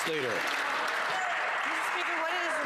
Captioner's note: some Applause